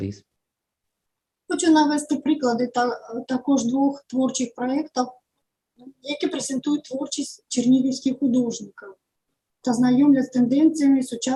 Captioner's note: foreign Language